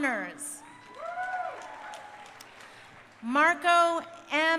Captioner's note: crowd cheering